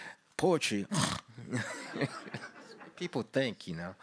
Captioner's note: snores